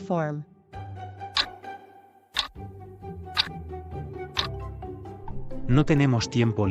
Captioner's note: FX - Clock Tick